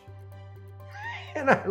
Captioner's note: laughs